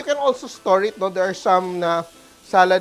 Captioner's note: sizzles